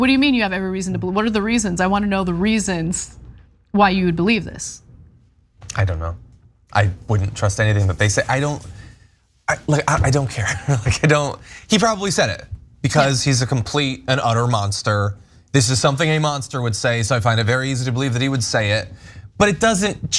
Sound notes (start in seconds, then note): 10.1 laugh